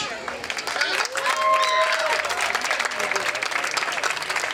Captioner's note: crowd clapping